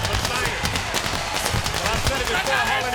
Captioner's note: fireworks crackling